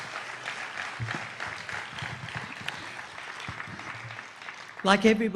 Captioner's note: applause